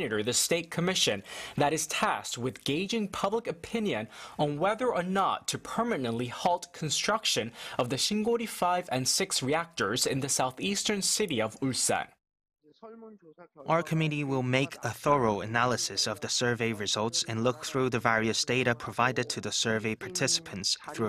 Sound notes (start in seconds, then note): 12.2 Korean